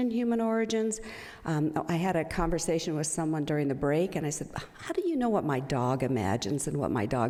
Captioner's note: none